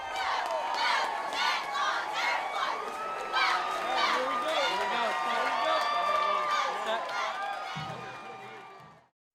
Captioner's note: cheering